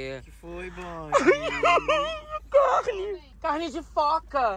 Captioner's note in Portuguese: Blogueirinha chora